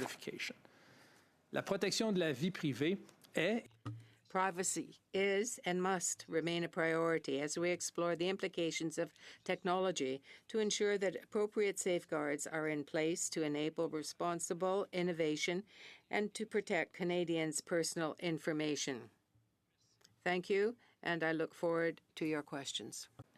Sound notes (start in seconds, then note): 5.0 speaking French